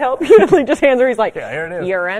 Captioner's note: laughter